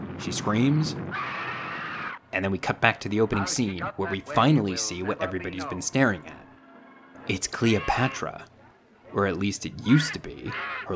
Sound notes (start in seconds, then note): 1.2 Cleopatra screaming; 6.2 Cleopatra squawking